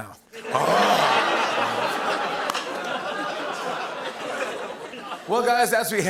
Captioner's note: laughter